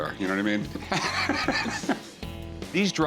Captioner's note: laughs